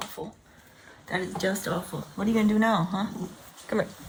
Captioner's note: cat purring